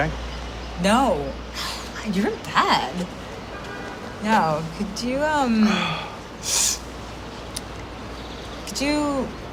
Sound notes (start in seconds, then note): 2.3 sighs; 6.4 sniffs